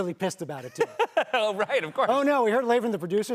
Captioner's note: laughs